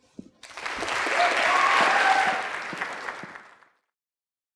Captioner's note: audience applauding